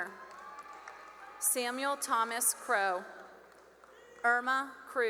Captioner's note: cheering and applause